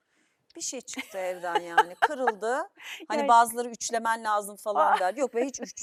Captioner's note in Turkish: kahkaha